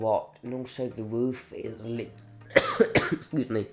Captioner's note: more disgusting phlegmy coughing